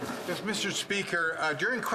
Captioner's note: speaking french